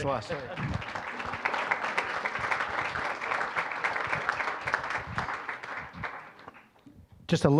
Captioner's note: applause